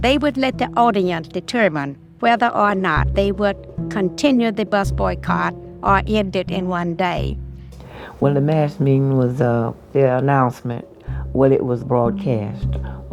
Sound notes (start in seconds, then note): 7.7 soundbite of archived recording